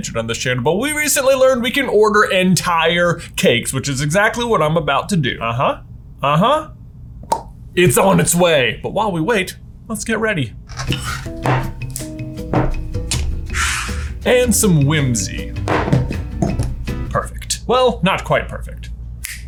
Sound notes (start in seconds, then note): 7.2 smacks lips; 10.7 jars and pots bang; 10.8 soft jazz music; 12.5 pot scrapes; 15.4 mug bangs; 19.2 snaps